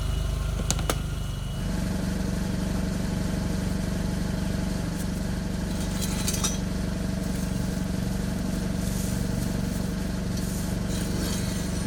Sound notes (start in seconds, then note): 1.8 protection mats crunching